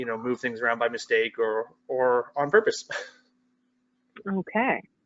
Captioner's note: laughs